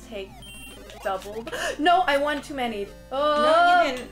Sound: gasp

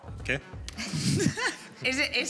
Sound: laughter

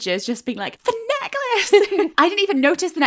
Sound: laughing

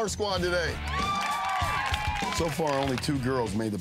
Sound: crowd cheering and clapping

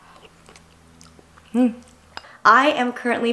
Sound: chewing

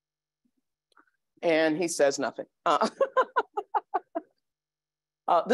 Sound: laughs

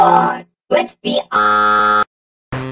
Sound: TV glitches

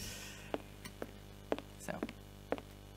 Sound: footsteps

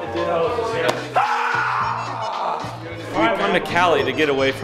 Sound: yelling

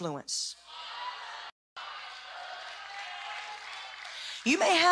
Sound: cheering

